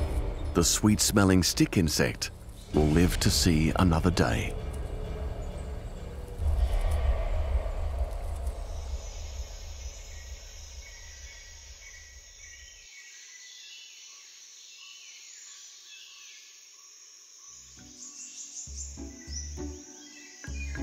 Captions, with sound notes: The sweet-smelling stick insect will live to see another day. -[insects trilling] -[birds chirping]